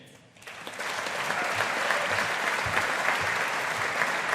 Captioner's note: audience applauding